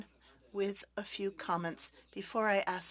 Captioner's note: speaking French